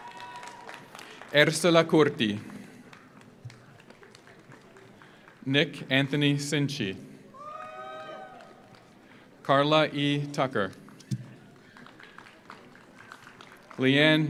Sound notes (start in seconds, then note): 0.0 audience cheers; 0.0 audience applauds; 7.3 audience cheers; 7.4 audience applauds; 11.3 audience applauds